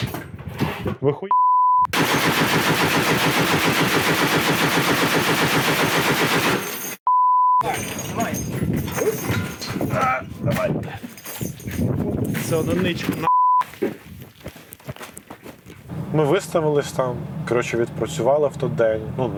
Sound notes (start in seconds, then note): 1.9 machine gun fires